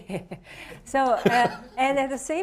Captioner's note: laughs; chuckles